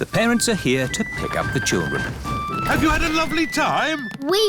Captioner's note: none